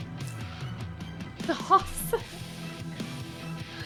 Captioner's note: laughs